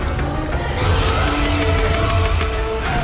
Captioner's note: inhuman roar